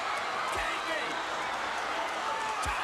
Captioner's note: crowd chatter